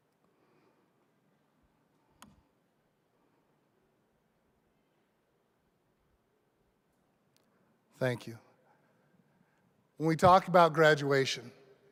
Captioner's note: moment of silence